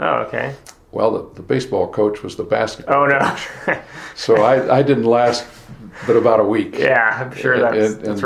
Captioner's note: both laughing